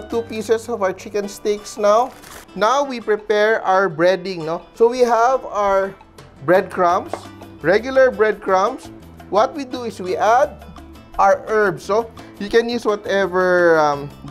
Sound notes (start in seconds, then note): 2.0 rustle; 7.1 knock